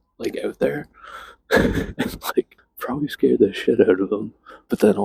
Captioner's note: laughs